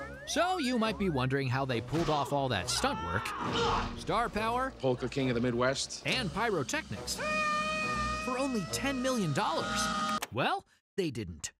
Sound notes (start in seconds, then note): 7.1 screams